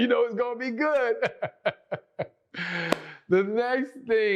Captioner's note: laughs